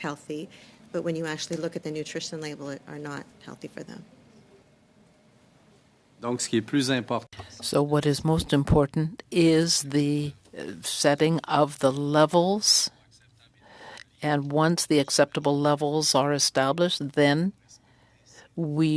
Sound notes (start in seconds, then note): 10.4 speaking French